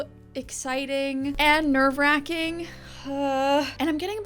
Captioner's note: groans